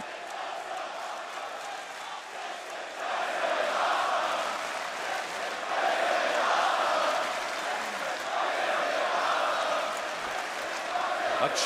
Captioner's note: crowd cheering